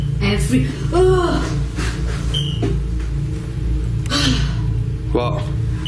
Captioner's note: gasping